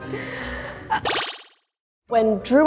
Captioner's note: magical trill